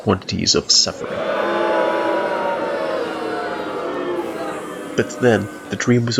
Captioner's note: booing